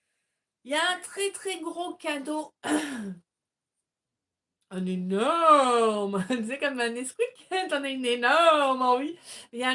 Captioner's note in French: rires